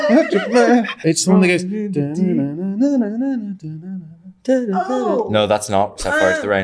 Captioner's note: humming